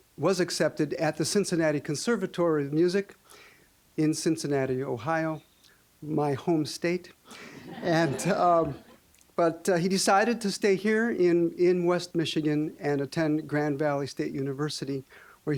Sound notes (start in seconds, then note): 7.5 audience laughing